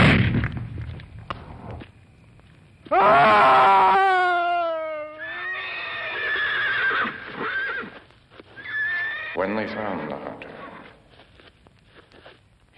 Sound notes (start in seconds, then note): 0.0 gun shot; 2.8 screaming; 5.1 neighing